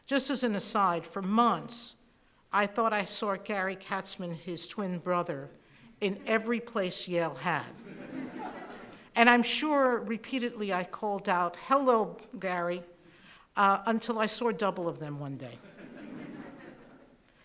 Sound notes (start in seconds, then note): 7.8 laughing